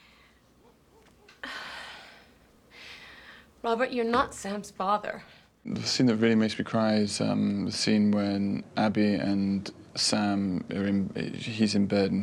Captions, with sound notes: [ Sighs ] ROBERT, YOU'RE NOT SAM'S FATHER. THE SCENE THAT REALLY MAKES ME CRY IS THE SCENE WHEN... ABBIE AND SAM ARE IN-- HE'S IN BED, AND HE SAYS,